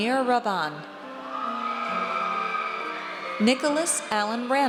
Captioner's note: audience cheers